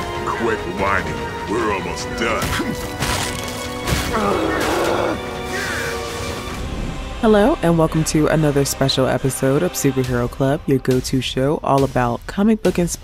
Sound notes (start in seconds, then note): 2.6 suspenseful music; 2.9 body crunching